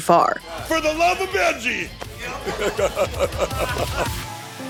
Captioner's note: laughing